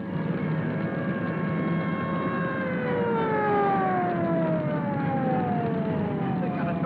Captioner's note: flames roaring; siren wailing